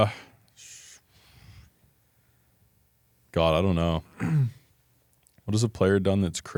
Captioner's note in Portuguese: limpa a garganta